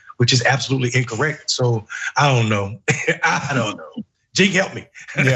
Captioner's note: laugh